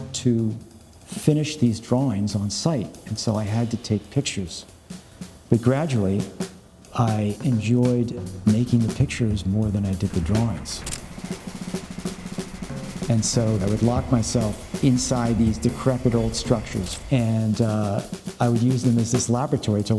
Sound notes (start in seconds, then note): 10.7 camera clicks; 11.1 percussion music continues